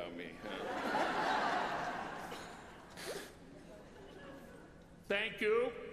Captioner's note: laughter